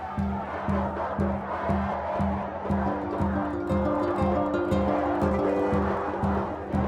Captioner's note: crowds chanting; strumming music